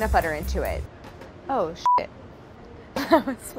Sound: laughs

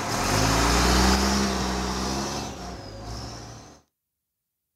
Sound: truck engine running; truck engine revving

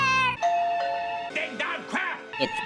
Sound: doorbell rings

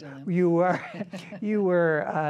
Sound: both laughing

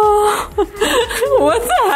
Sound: laughing

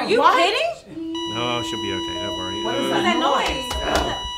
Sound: machine makes 'flatline' noise

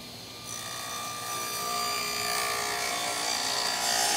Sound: blade buzzing

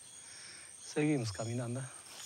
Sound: none

